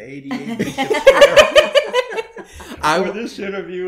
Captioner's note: laughter